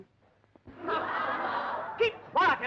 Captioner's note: laughing